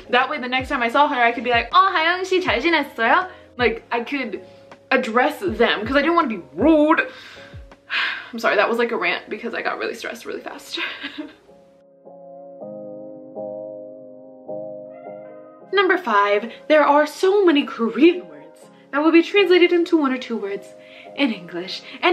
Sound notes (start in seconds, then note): 1.8 speaking Korean; 10.7 laughs